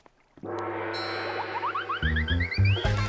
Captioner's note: gong sounds